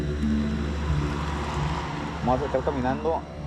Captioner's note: speaking spanish